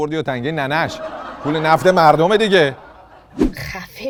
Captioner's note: laughter